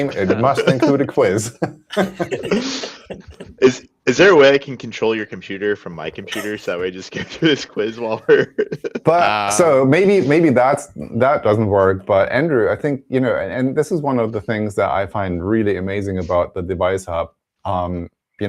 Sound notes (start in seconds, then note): 2.2 laughter